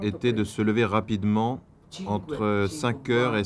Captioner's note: Italian spoken audio